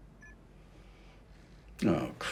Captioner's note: computer beeps